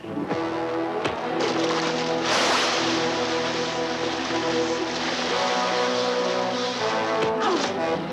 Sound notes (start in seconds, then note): 0.8 water splashing